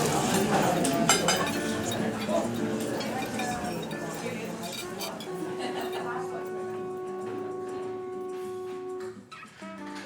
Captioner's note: restaurant chatter disappears into night